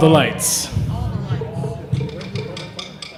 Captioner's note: chattering